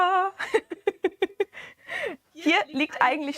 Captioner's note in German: gelächter